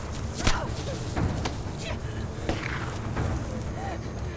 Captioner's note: Mackenzie gasps